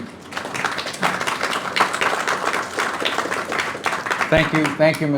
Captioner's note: applause